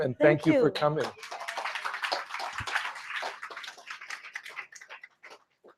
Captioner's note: applause